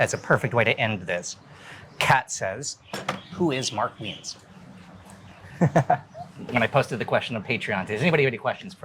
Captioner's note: laughing